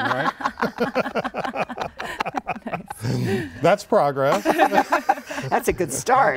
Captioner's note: laughter